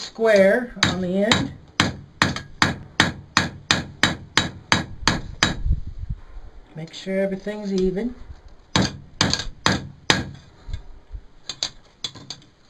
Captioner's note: hammer noises